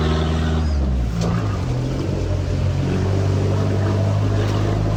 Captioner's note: car engine rumbling